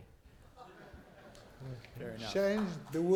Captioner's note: laughter